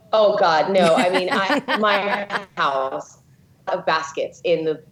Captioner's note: laughing